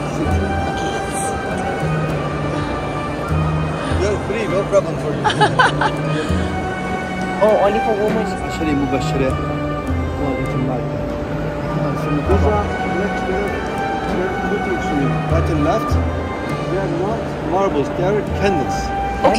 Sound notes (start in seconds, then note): 5.0 laugh; 8.2 speaking Turkish